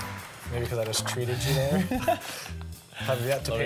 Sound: laughing

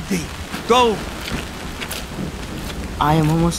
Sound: muddy footsteps

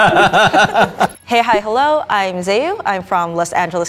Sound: laughing

